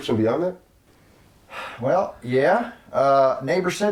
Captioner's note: sigh